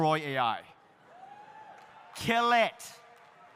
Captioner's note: audience cheering